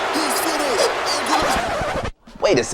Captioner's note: record stop sound